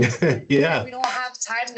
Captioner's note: laughs